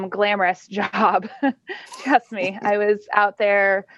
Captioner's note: laughs